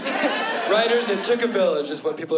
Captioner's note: laughter